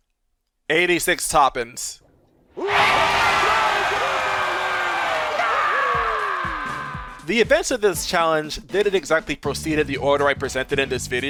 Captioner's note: SpongeBob crowd cheers